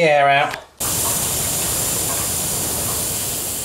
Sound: hissing

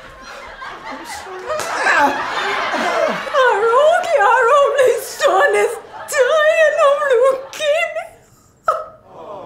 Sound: smack

